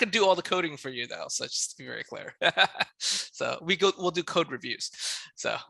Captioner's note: laughs